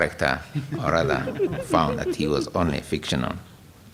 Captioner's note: laughter